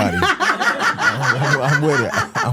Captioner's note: hosts laughing